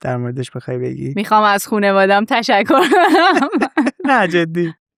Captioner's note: laughs